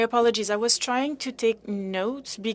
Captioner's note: speaking French